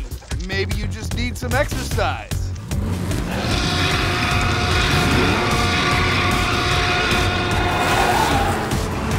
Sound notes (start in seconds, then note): 3.2 dinosaur roars; 6.0 tires screeching